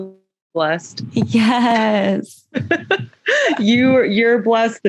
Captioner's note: laughter